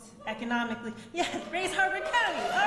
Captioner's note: audience member hoots